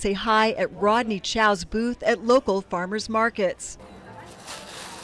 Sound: sound from farmers market

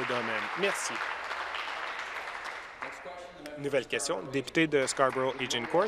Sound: applause

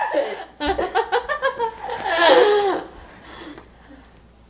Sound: laughing

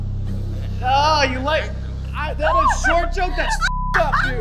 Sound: stammering

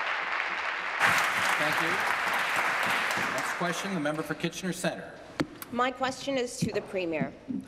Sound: applause

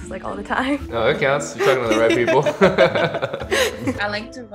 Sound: laughs

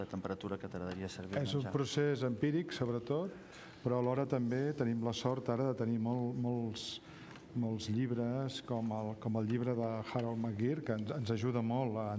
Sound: speaking catalan

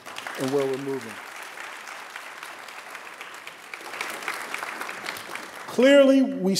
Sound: applause

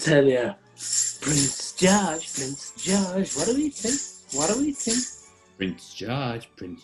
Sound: jingles sleigh bells

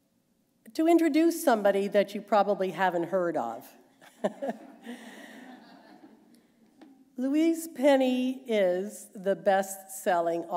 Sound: laughter

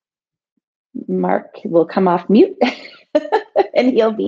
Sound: laughs

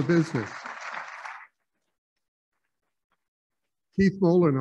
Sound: applauding

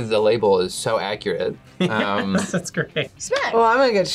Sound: laughs

